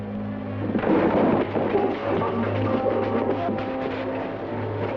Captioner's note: boards and buckets move